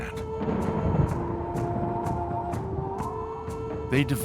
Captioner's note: wind whipping